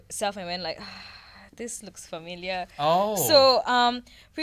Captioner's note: sighs